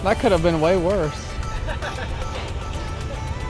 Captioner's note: laughter